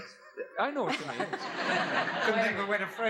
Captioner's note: laughs